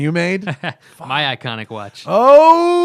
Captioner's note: laughter